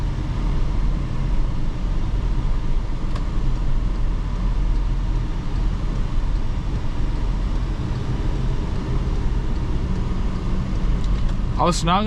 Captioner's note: car engine